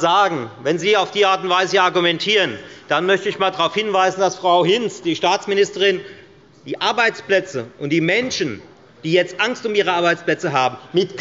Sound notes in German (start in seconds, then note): none